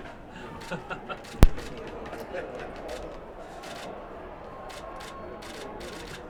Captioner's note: Jimmy laughs; camera shutter clicking